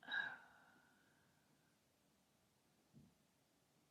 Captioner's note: sighs